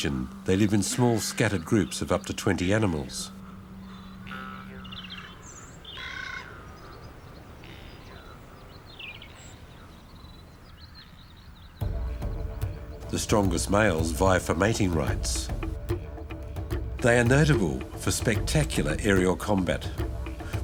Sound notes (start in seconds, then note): 5.8 bird squawks; 8.3 birds chirp; 12.0 dramatic music